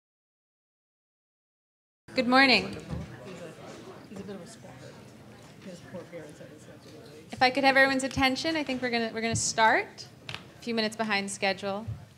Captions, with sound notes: - Good morning. (audience chattering) If I can have everyone's attention, I think we're gonna start a few minutes behind schedule.